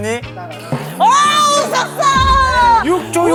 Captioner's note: burst out in laughter